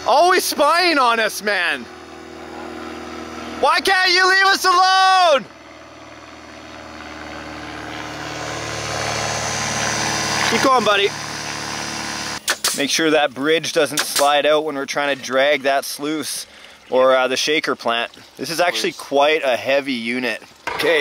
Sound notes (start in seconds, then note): 6.1 plane roaring; 13.9 nail gun shooting